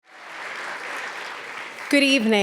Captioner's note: audience applauds